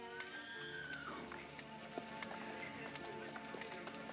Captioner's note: horse whinnies